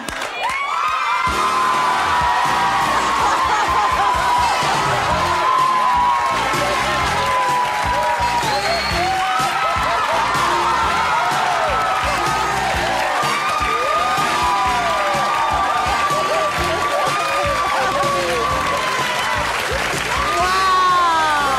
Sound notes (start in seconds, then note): 0.1 audience cheering; 0.1 upbeat music; 8.2 whistles; 9.7 audience cheering